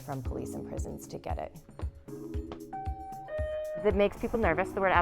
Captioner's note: doorbell Rings